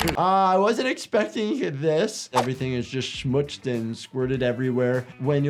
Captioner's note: none